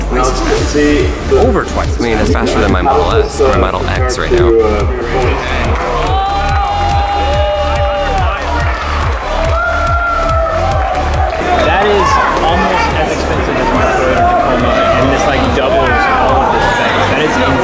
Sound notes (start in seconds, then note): 4.7 electronic music; 7.0 crowd cheering; 8.3 crowd clapping